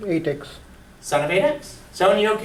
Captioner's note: voiceover